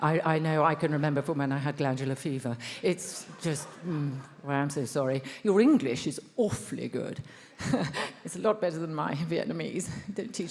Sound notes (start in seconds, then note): 3.0 attendees laughs; 7.7 laughs